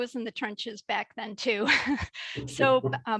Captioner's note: chuckles